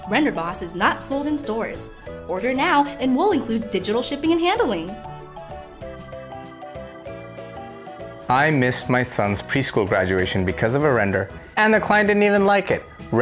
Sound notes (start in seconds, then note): 7.0 ding